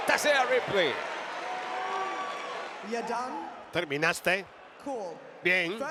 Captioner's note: applause